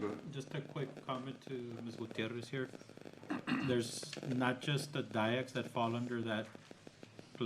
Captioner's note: clears throat